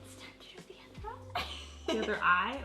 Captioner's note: laughs